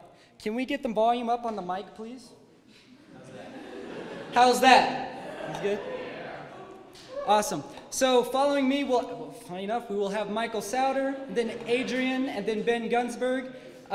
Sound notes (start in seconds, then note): 2.9 laughs